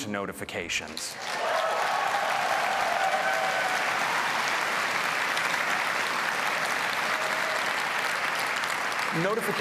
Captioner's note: applause